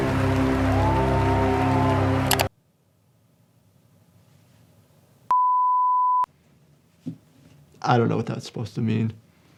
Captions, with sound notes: (audience cheering and applauding) (tone beeps) I don't know what that was supposed to mean.